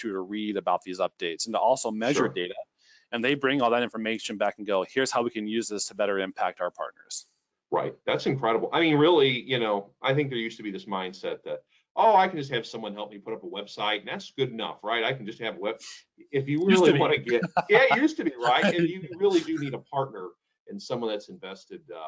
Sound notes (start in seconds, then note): 16.6 laughing